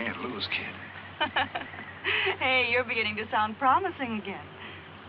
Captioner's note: laughing